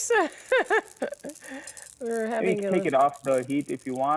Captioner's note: laughs